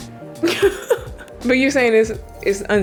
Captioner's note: laughing